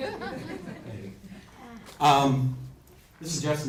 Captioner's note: crowd laughs